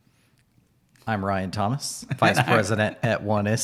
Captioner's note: laughs